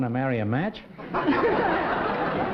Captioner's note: laughter